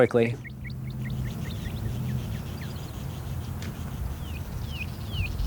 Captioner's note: birds chirping